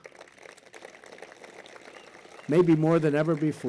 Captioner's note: applause